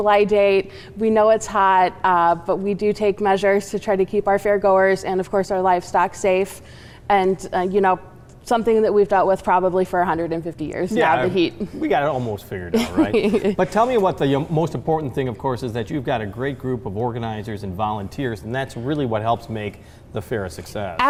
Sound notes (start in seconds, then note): 12.7 laughing